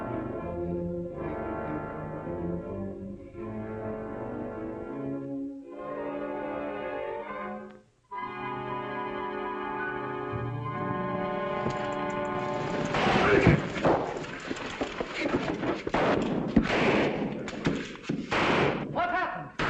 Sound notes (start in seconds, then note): 12.9 gunshot; 15.8 gunshot